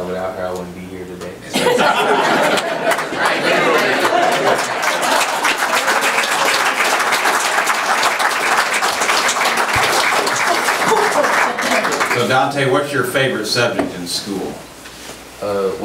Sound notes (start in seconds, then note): 1.5 group laughs; 2.3 overlapping chattering; 4.0 audience applauds